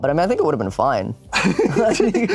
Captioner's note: laughs